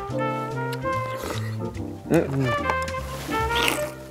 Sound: slurp

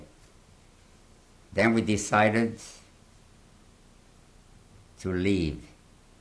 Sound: pauses for 3 seconds

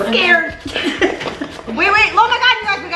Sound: laughs

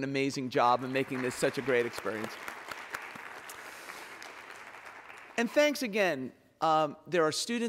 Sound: applause

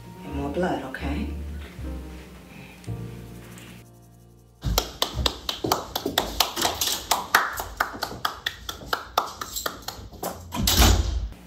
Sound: shoe heels clicking. Door slams

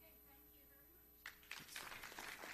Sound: applause

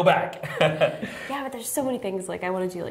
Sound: laughter

